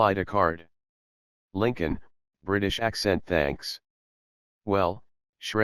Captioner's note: British accent